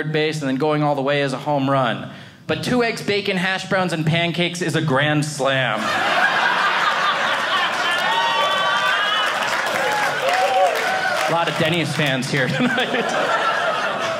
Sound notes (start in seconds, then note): 5.7 audience laughing